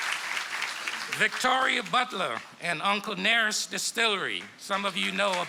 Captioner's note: applause